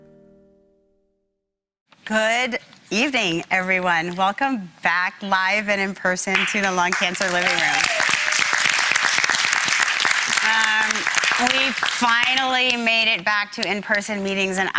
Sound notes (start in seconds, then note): 8.9 audience applauding